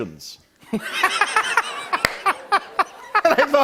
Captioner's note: laughter